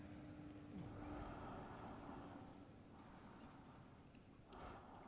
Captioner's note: breathing softly